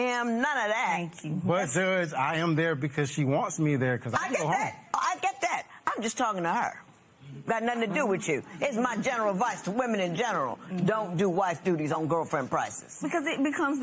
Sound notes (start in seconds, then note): none